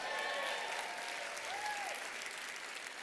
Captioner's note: applause